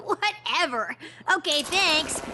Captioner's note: none